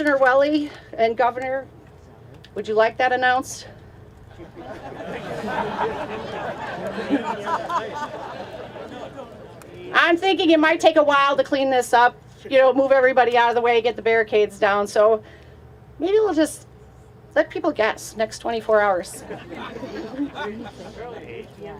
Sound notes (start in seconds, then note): 4.3 laughter